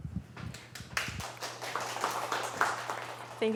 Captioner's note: applause